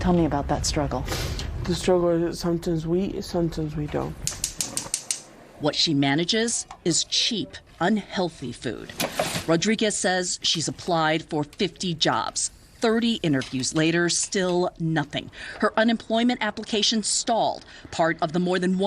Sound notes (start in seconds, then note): 1.6 sniffles; 4.1 cooker crackling